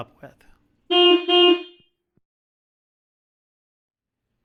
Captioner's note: horn blaring